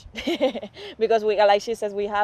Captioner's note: laughter